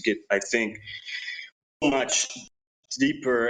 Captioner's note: none